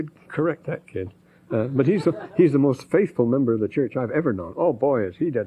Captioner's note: laughter